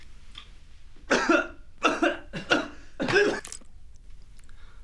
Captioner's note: John coughing